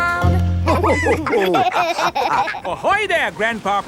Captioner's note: all laughing